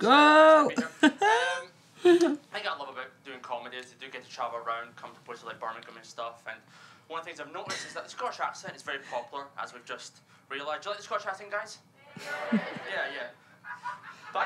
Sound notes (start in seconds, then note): 11.8 audience member laughs loudly; 12.0 crowd